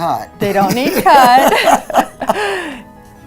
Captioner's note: laughs